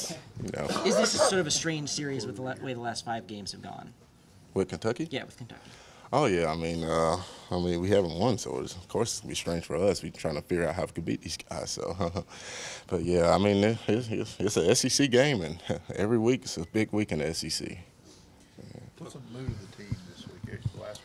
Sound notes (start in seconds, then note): 12.4 chuckles